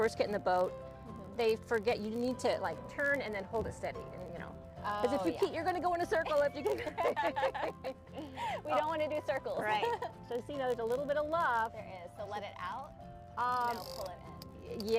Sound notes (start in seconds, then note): 6.6 laughing